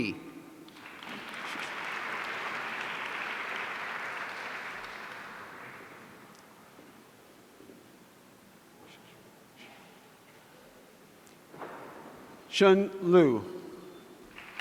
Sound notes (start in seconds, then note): 0.6 audience applauding